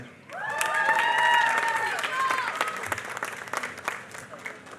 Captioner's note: applause